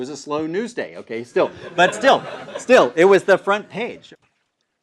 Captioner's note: laugh